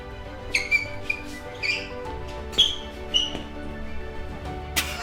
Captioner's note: squeak, squeak